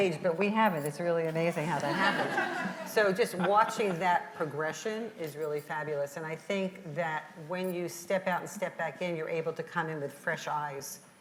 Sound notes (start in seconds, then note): 1.8 audience laughs